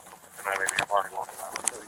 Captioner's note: radio chatter